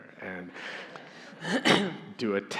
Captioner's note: audience laughing